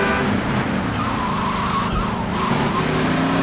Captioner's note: tires screeching